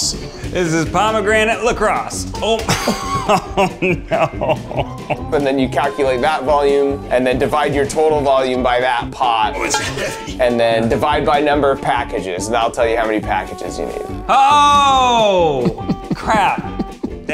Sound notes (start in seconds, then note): 2.6 both laughing; 2.6 laughs